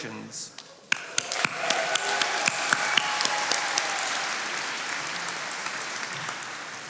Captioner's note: attendees cheering and applauding